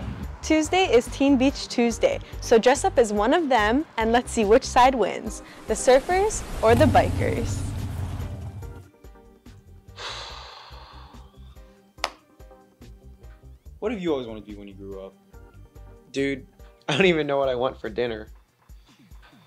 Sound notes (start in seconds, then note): 5.6 sound of wave crashing and motorcycle; 9.9 sighs